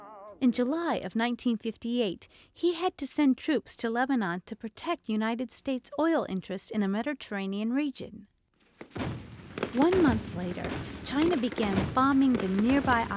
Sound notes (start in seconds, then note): 8.8 guns firing